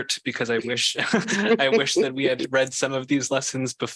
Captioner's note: laughter